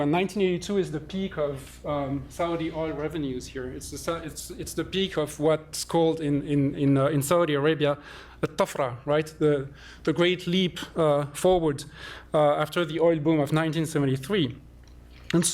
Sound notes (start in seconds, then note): 8.7 non-english